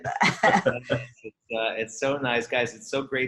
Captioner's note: laughter